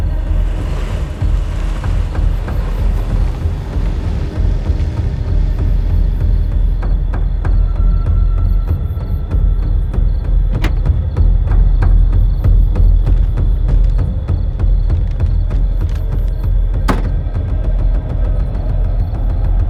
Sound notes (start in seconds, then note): 10.5 latch clicking; 16.8 trunk closing